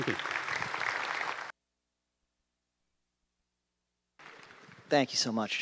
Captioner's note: applause